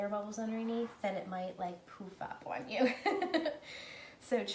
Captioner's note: laughing